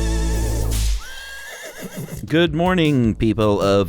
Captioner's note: horse neighs